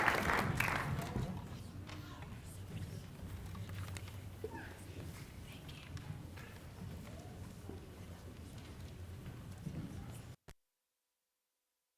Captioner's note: applause